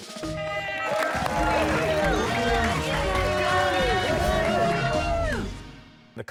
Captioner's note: cheers and applause